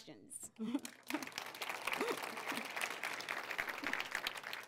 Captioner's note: applause